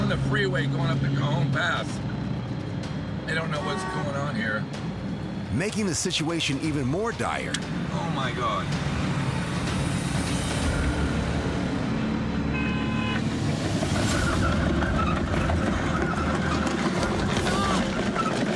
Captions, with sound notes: >>Making the situation even more dire- (car horn blaring) (tires screeching)